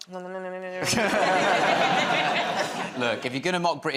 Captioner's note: laughter